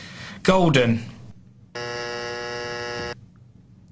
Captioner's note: buzzer